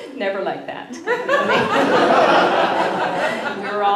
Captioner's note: laughter